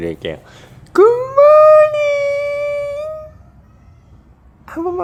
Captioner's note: tone rises again